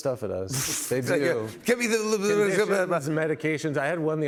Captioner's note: speaks gibberish